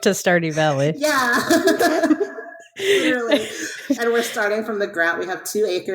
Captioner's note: laughs